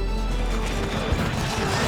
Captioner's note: battle sounds, horses neighing